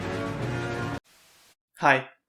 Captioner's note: static